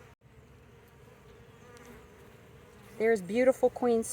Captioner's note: bees buzzing